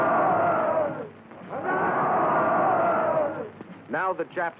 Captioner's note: shouting